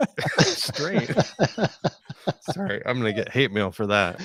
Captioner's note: laughing